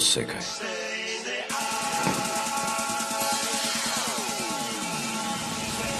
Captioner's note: footsteps turn around